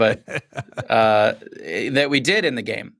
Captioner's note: laughter